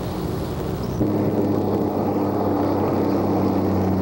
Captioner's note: truck driving